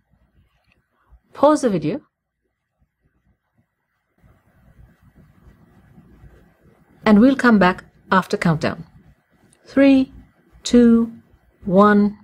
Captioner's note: pause